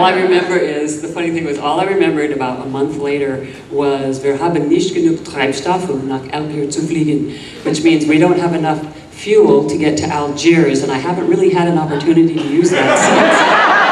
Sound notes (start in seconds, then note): 4.1 speaking German; 12.3 audience laughing